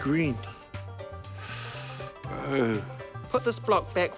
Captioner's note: inhales sharply